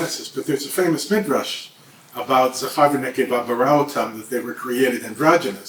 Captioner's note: hebrew